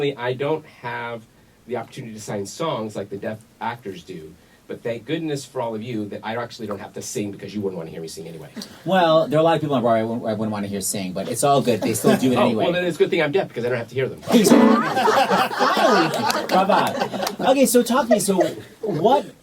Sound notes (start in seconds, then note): 8.6 background laughs; 14.3 laughter; 14.4 slams piano keys; 16.8 laughter